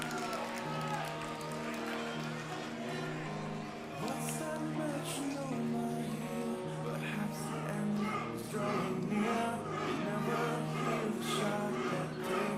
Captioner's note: crowd cheering